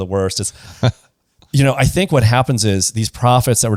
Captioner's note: laughs